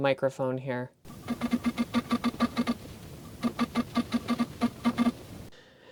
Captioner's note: clicking sounds and high-gain background noise